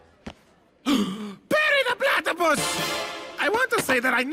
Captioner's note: gasps